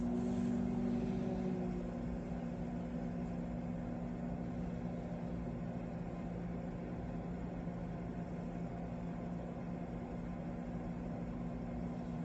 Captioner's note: microwave whirring; starts microwave